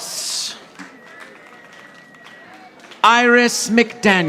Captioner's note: audience applauding